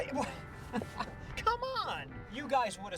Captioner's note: chuckles